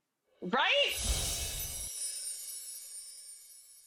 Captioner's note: bells chime